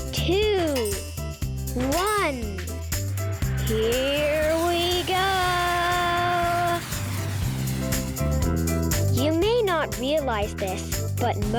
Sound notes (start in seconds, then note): 6.4 rocket engine noises